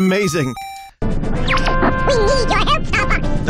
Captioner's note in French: avec une voix très aiguë